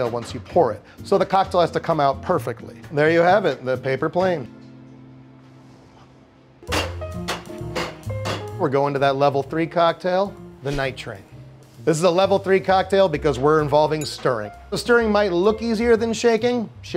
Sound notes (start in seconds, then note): 6.7 bottles clacking; 6.8 cheerful music